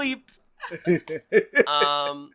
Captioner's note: laughs